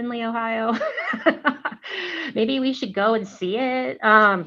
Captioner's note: laughter